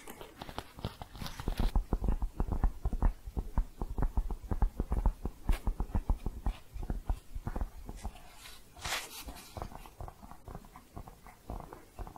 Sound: tapping and shuffling; muted tapping

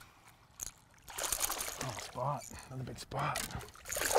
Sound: fish splashing

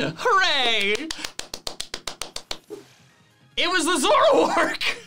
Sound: claps

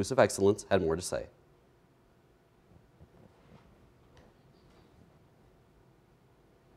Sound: silence

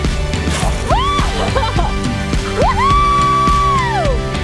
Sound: screaming; fun music

